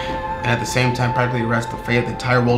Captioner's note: sighs